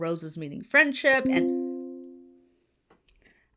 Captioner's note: notification dings